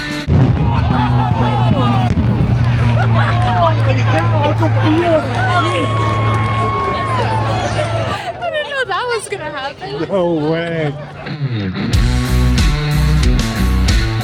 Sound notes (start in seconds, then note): 0.6 laughter; 5.6 cheering